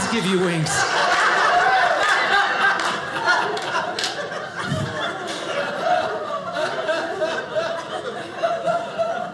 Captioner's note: audience laughing